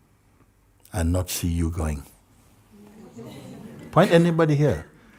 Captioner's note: Lachen